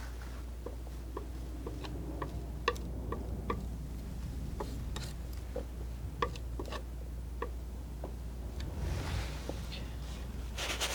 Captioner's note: scratching